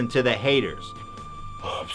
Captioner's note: quick zoom, and speaking a little bit quieter